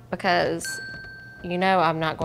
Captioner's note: bell ringing